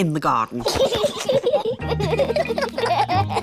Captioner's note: both laughing